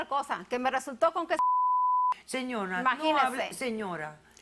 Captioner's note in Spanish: Bip